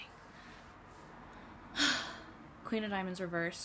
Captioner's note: dramatic sigh